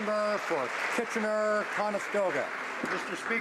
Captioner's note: applause